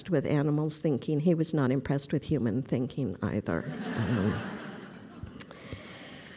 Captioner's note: laughter